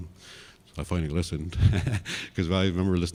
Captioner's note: laughs